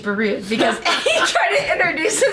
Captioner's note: laughing